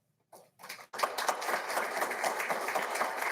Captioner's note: applauding